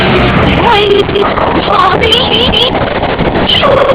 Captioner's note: glitched groaning; glitched, stuttered audio